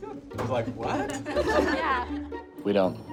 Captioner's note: group laughs